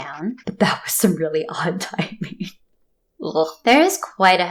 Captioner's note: laugh